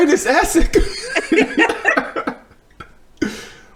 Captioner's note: laughing